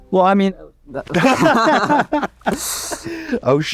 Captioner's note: both laugh